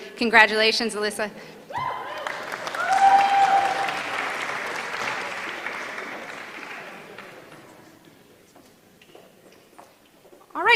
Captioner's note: applause